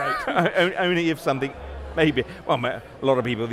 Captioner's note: laughs